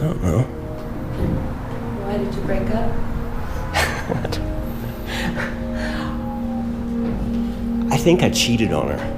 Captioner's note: laughs